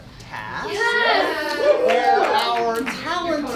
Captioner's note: cheering